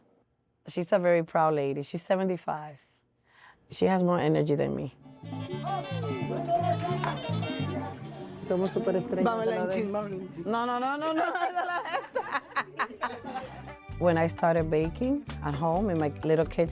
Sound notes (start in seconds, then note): 4.9 up-tempo music playing; 8.3 conversing in Spanish; 10.8 laughter